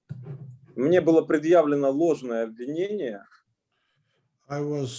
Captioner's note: speaking Russian language